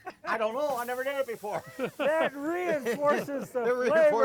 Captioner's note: laughing